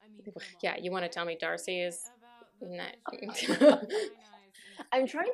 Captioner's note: gibberish and laughter